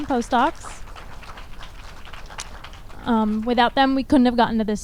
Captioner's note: audience applauds